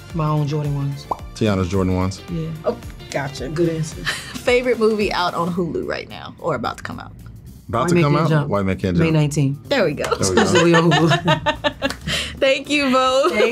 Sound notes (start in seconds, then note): 10.2 laughs